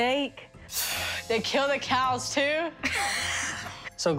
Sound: gasping

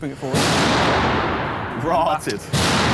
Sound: metal clanking

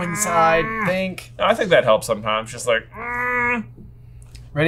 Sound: groaning; groans

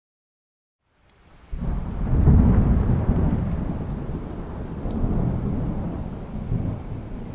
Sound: rain drops sprinkling; thunder rumbling

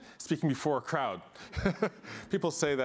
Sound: laughter

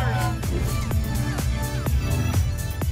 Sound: whoosh

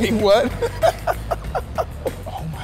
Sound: laughing

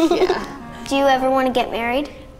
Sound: giggles

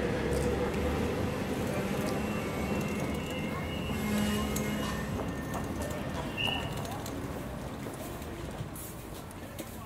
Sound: lighter street sounds

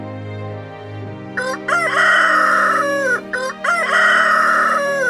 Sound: rooster crowing

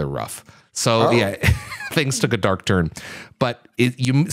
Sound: laughs

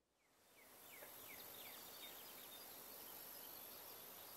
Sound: birds chirping

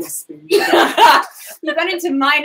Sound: laughing

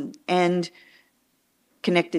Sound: none

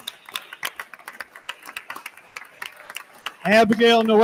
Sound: attendees continue applauding

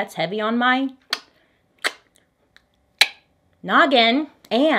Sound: clicks tongue

